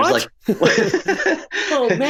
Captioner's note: laughing